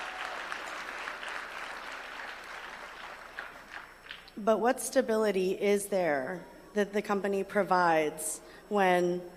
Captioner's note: applause